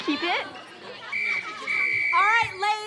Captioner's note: whistle blowing